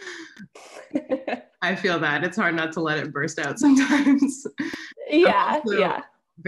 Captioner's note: laughs